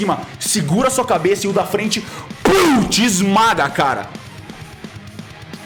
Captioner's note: pow